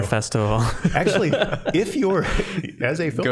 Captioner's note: all laughing